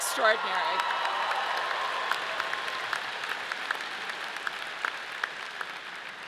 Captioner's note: audience cheering and clapping